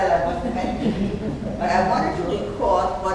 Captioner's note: speaking off mic and muffled